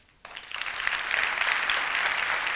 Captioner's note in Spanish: Aplausos